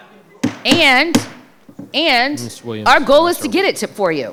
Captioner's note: gavel bangs